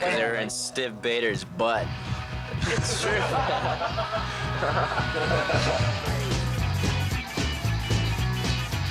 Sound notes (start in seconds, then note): 2.5 laughing; 6.4 punk music